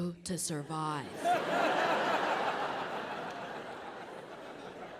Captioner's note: audience laughing